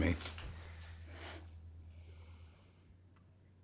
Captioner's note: laughs